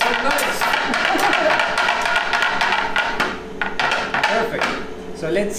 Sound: laughs

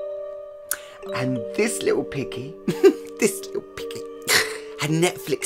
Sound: chuckle

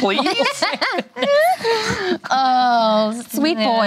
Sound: laughing

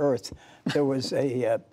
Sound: laughter

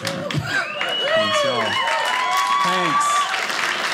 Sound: audience laughing; audience cheering

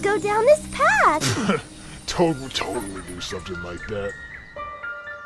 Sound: scoff

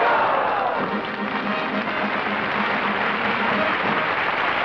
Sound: applause

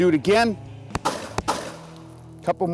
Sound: gun fires twice

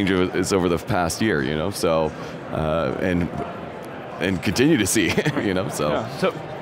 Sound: laughs

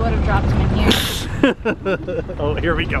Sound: chuckles

